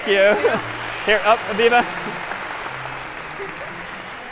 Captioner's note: applause